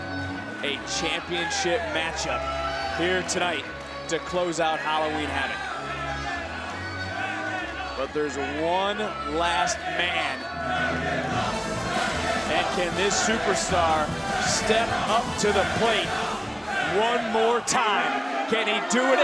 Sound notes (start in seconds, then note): 11.5 crowd chants "dragunov"